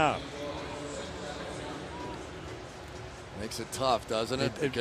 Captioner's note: pa announcement